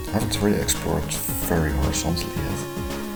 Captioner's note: none